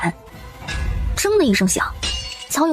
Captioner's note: clang